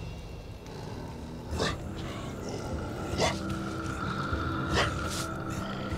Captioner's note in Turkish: Şaman homurdanıyor